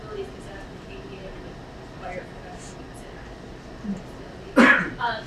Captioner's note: speaking away from mic